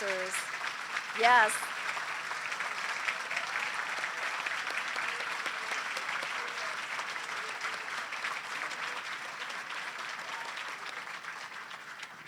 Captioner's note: applause